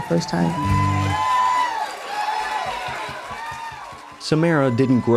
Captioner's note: cheers and applause